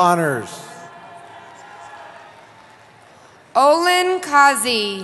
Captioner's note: cheering